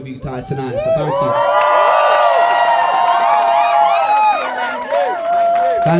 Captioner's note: cheers